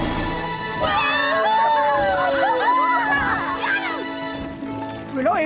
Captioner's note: Piggley, Dannan and Ferny cheering